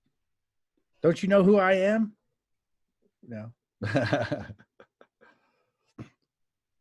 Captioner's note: laughs